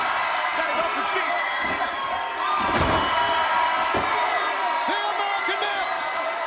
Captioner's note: audience cheering loudly